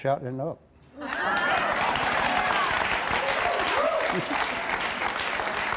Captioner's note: audience applauding and laughing